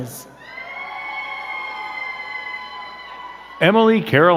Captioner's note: crowd cheering and clapping